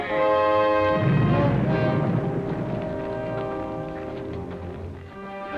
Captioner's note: muffled explosion rumbles